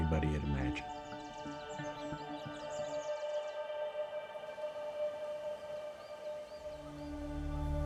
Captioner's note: birds chirping